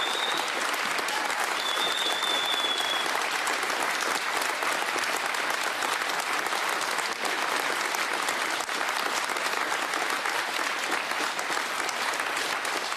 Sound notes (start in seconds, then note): 0.0 applause